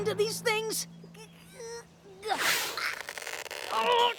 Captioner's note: rainbow dash grunting